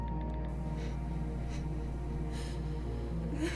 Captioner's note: cries